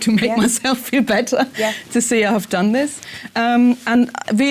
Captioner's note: laugh